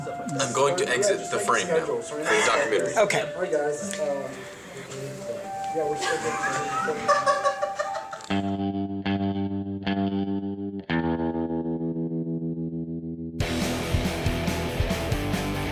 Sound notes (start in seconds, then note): 5.8 laugh off-camera